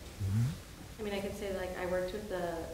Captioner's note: woman's Voice